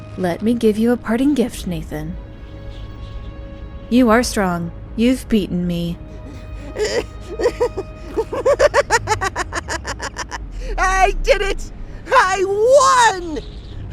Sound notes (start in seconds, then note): 6.1 laughing